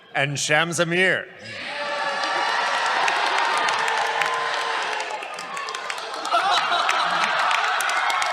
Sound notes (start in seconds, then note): 1.4 cheers